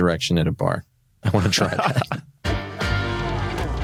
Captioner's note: laughs